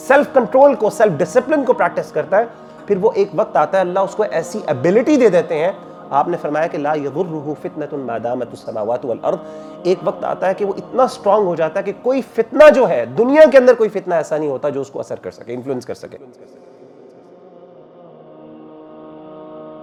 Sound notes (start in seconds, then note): 8.8 Arabic